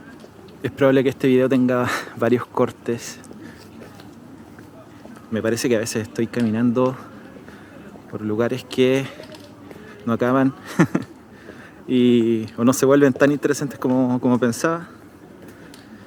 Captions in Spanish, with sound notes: Es probable que este video tenga varios cortes. Me parece que a veces estoy caminando por lugares que no acaban (risas)... o no se vuelven tan interesantes como pensaba.